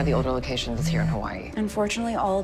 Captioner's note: phone buzzing